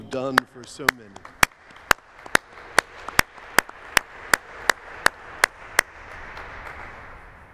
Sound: applause

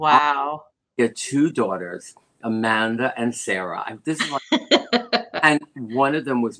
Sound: laughter

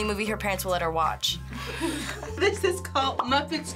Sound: group laughs

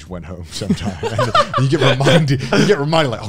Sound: everyone laughs

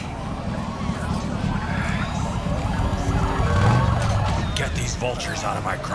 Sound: Minty winces in pain, sound of crowd gathering

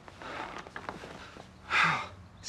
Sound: sighs

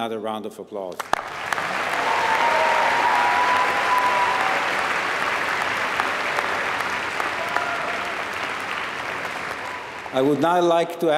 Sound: applause

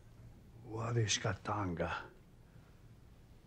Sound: speaks Osage

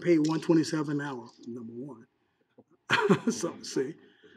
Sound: laughing

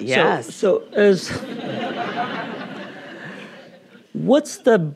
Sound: audience laughing

